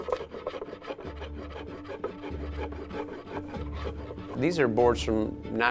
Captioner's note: wood planer scraping